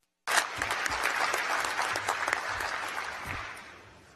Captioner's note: applause